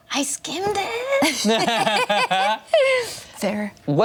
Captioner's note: everyone laughs